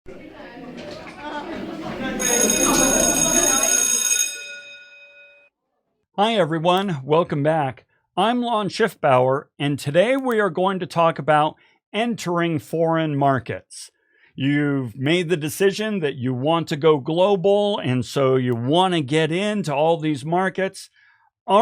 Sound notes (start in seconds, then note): 0.1 students chattering; 2.1 bell ringing